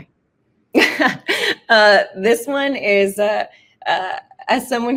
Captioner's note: laughs